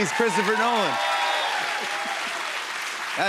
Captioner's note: cheers and applause